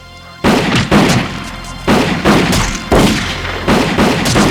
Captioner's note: suspenseful music; guns firing